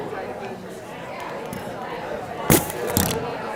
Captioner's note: audience chattering